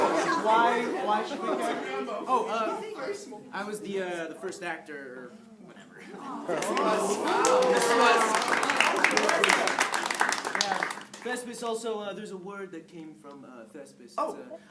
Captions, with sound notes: Why... Why should we care? Oh! Uh, I was the, uh, the first actor or whatever. - (Applause) - Yes he was. Yes he was. - Thespis. Also, uh there's a word that came from, uh, Thespis. - Oh.